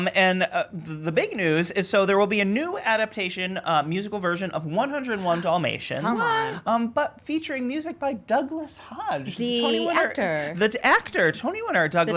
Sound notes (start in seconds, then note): 6.2 gasps